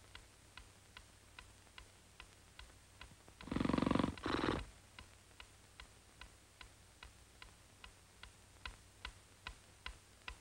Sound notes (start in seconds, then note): 2.1 clock ticking; 3.4 Ebenezer snoring